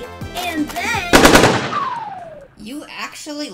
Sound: gunshots

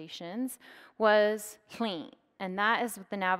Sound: speaks in foreign language

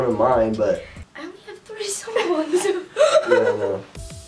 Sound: laughs

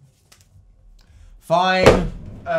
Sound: hits desk

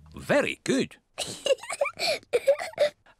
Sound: laughs

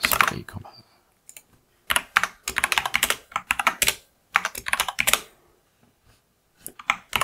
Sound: blank Audio

